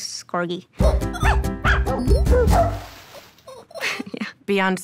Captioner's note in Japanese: 犬の吠え声; 笑い